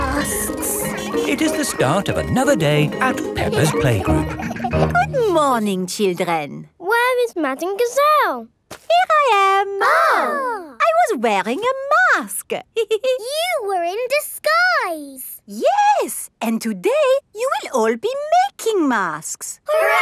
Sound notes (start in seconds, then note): 9.7 exclaiming; 12.7 giggles